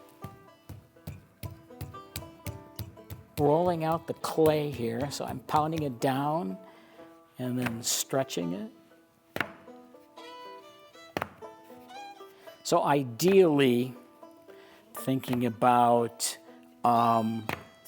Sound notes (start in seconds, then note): 0.6 fist thumping; 9.0 clay slapping